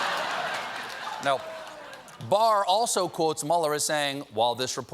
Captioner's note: laughter